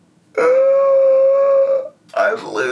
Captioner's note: yelling